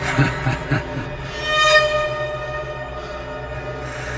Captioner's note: Grant laughs